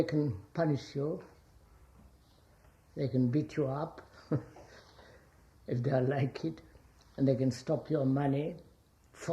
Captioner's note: laughs